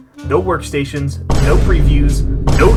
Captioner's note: boom